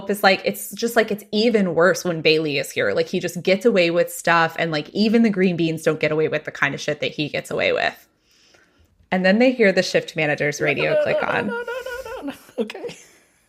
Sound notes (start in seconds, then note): 11.7 quietly